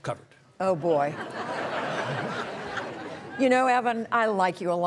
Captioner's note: audience laughing